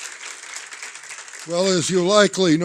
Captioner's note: applause